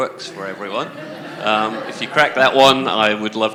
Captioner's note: laughter